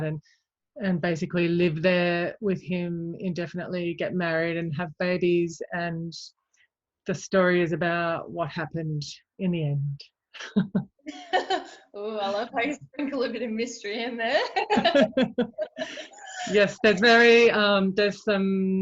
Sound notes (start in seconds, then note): 11.0 chuckles; 11.0 laughs; 14.4 both laugh